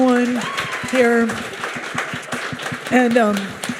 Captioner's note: audience applauds and cheers